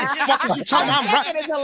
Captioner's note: laughing